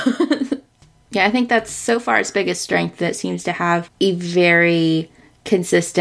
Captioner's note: laughs